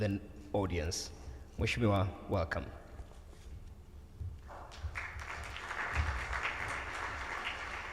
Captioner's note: speaking foreign language; audience applauds